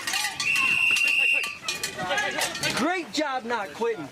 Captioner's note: whistle